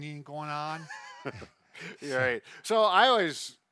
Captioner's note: laughing